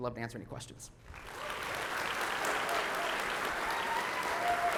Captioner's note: audience applauding